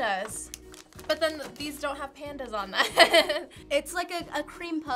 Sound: laughs

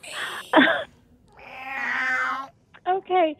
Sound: yowling

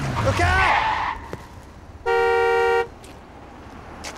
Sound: horn honks

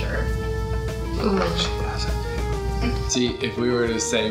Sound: whispers

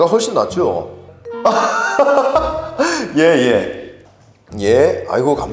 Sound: ahaha

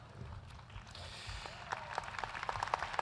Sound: applause

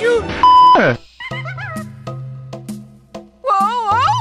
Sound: monkey noises in the backround

